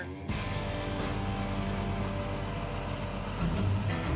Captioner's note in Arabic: هدير المحرك